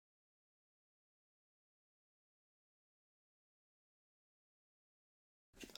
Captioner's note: silence